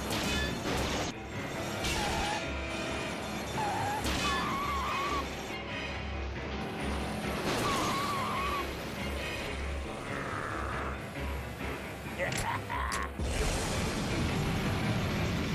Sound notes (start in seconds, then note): 3.5 tires screeching; 12.2 snickering